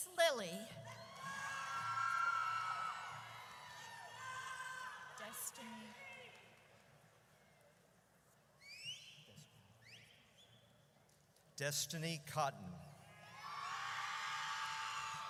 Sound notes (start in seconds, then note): 0.9 audience cheers; 5.5 group chattering; 13.3 audience cheers